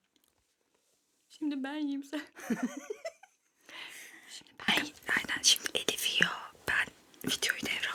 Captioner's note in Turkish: kahkaha